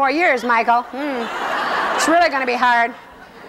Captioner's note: laughing